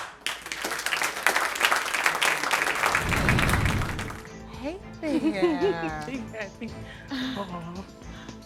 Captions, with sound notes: Hey, there. (CHUCKLES) Oh...